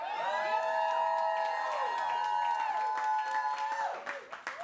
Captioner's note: audience cheering